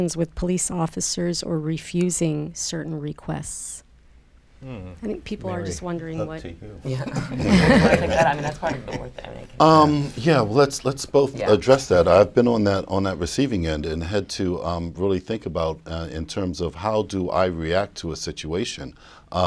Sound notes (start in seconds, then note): 6.9 laughter